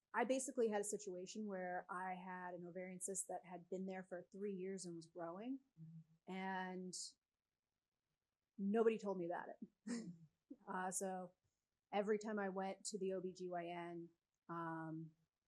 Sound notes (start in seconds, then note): 10.0 sighs